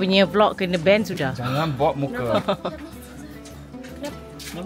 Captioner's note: laugh